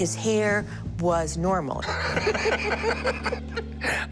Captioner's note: laughter